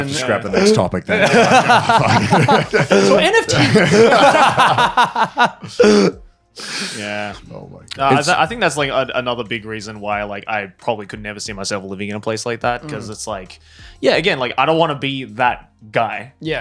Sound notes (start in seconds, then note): 1.1 laughing